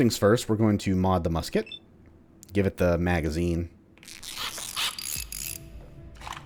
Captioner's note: tinkering noises, followed by new Musket reload sound